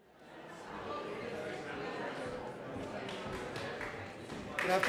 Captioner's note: audience chatters